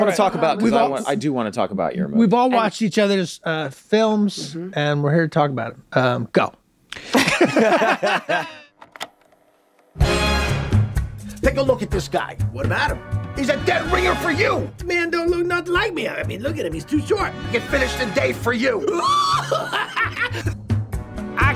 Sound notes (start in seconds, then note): 7.1 everyone laughs; 10.4 Latin music; 18.8 squeals and laughs